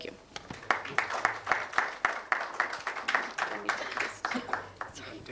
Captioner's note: attendees applauding